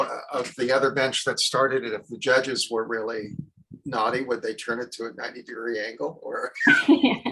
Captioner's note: both laugh